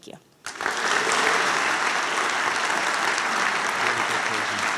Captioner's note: applause